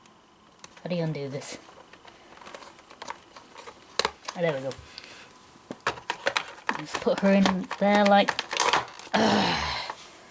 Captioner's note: ugggh